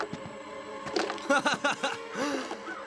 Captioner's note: laughs